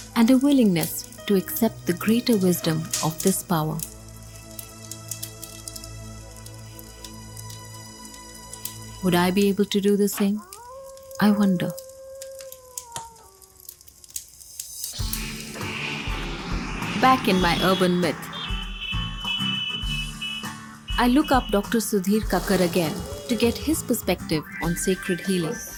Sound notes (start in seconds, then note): 3.6 fire cracking; 4.0 gentle music; 10.4 wolf howls; 17.0 horns beeping